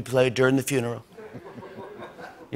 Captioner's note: laughter